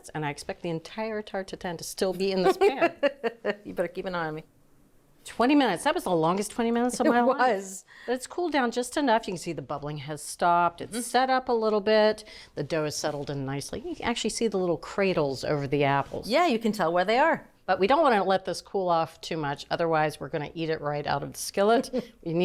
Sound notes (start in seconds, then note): 2.4 laughing